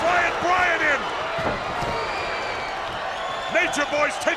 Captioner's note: spectators cheering; Stunning Steve thuds